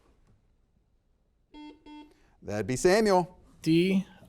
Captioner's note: buzzer beeps